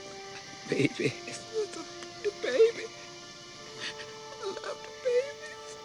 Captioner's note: sobs